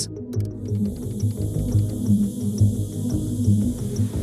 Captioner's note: gas hissing